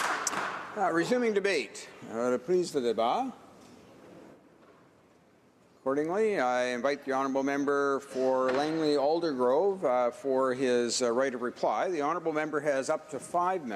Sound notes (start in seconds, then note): 0.0 some Applause; 8.7 speaking French